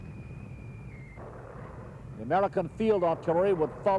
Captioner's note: mortar fire booming